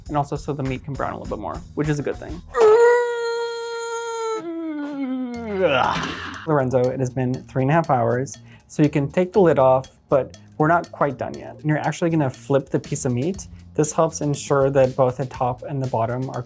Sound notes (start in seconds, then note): 2.8 strains